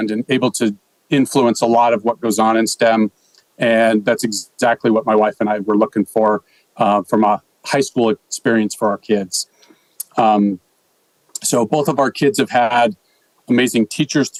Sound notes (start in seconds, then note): none